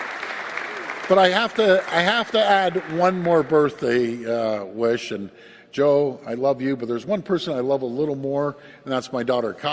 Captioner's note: applause